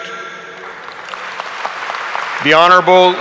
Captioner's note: audience applauding